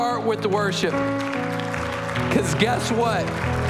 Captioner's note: applause